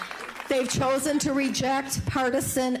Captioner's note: applause